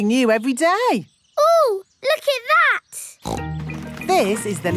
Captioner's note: snorts